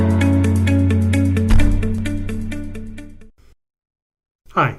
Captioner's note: banging